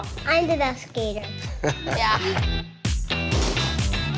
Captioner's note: chuckles